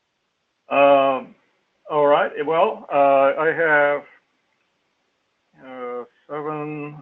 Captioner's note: laugh